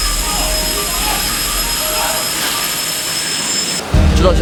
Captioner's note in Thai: ควันหนาทึบ ไฟลุกโชนรุนแรง